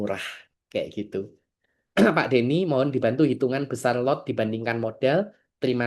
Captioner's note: berdehem